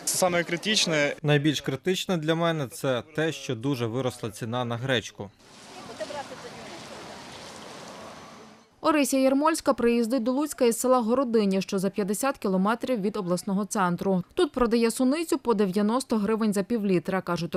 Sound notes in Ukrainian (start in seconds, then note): 5.7 Голоси жінок